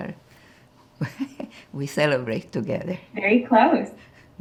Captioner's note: laughing